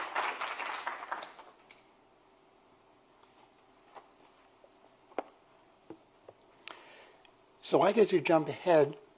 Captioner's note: applause